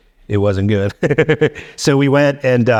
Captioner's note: laughing